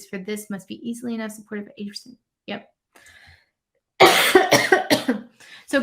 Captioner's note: coughs